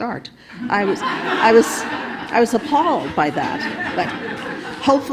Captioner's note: audience laughing